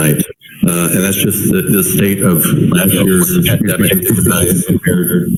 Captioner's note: distorted sound